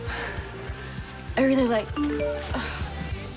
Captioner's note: phone chimes; groans